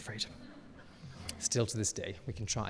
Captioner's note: audience laughing